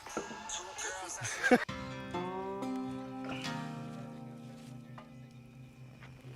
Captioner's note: laughs; banjo music